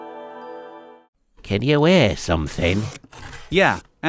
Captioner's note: rustling